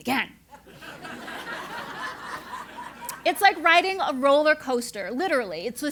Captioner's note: laugh